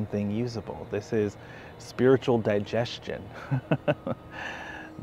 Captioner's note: laughs